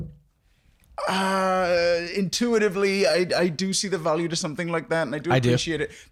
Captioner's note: groans